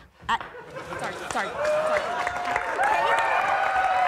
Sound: audience applauds

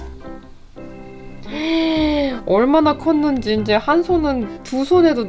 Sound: gasp

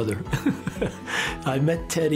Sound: chuckles

